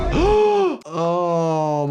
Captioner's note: gasps